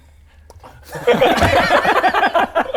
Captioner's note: impressionable laughter